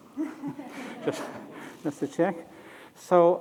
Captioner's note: laughter